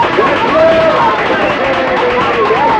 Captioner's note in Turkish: Alkış tezahürat